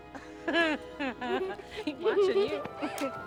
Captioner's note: woman giggling; kid giggling